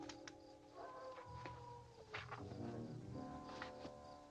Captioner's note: wolf howling